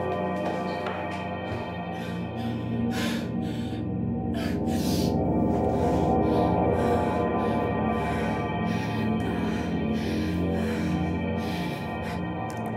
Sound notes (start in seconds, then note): 2.5 breathing heavy